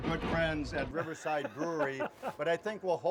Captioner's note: laughs